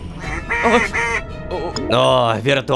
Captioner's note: quack-quack, quack!